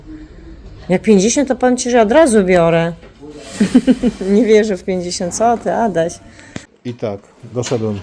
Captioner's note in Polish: śmiech